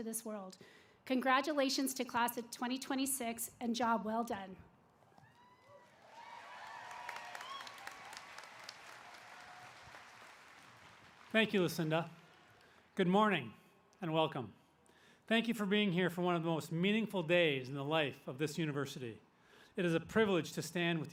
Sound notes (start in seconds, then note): 5.1 cheers and applause